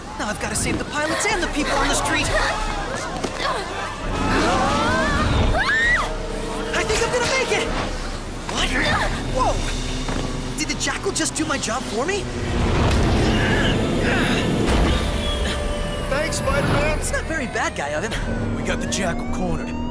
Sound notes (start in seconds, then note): 4.0 screaming